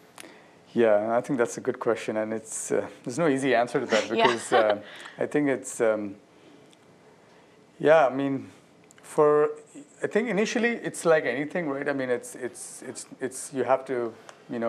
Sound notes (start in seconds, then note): 3.9 laughter